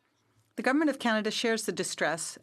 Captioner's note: speaking French